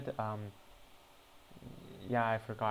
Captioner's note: cranial static